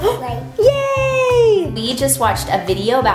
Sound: gasps

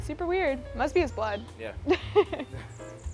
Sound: laugh

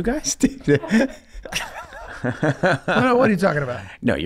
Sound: all laughing

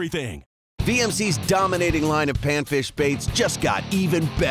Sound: voiceover

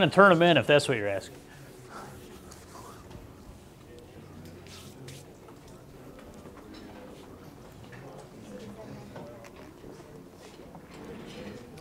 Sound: audience talking

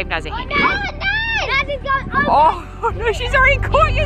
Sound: screaming

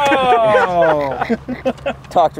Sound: laughter

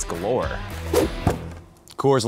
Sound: whoosh

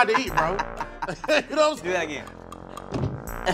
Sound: laughs

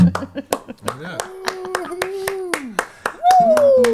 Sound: claps

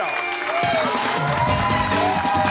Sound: cheers and applause

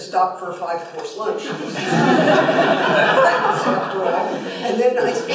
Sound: laughter

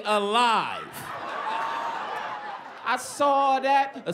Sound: laughter

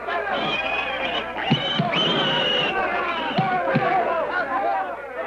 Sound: squealing; cheering

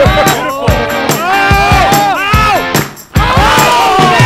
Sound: yelling

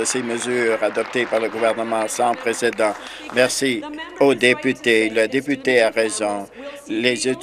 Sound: some Applause

